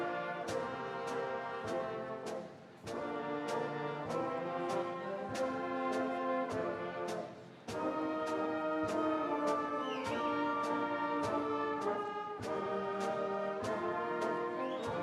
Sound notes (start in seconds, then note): none